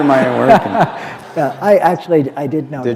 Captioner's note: laughter